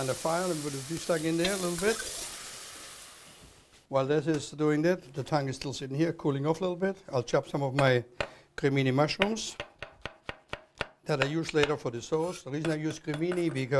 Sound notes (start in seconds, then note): 9.6 chopping